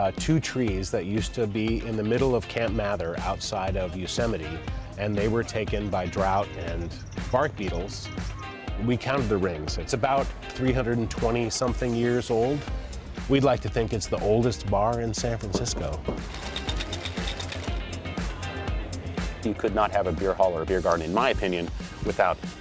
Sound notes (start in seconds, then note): 16.2 ice rattling in shaker